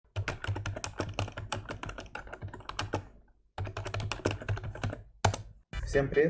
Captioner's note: click-click-click